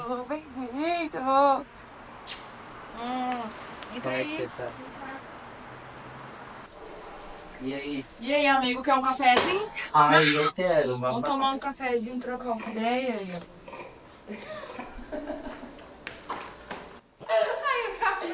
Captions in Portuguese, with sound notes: Ei meu querido bem vindo Entra aí E aí E aí amigo quer um cafezinho? ai eu quero, babado Vamos tomar um cafezinho trocar uma ideia [risos] Ah o café acabou